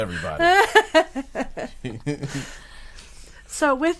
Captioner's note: group laughing